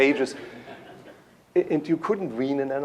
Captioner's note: laughter